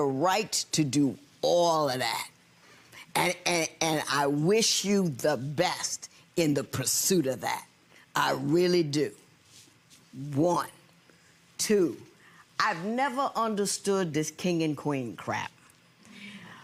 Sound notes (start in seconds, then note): none